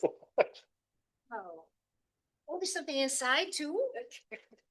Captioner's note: laughing